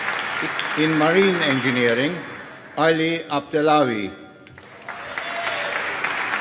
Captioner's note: cheering and applause